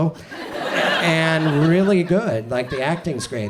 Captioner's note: audience laughs